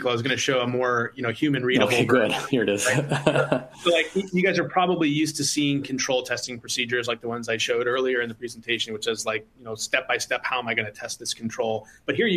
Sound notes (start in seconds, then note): 1.8 chuckles